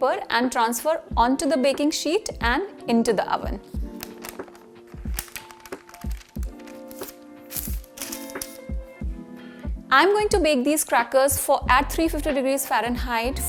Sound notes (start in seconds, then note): 3.9 paper rustling; 6.8 upbeat music